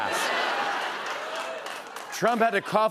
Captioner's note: laughter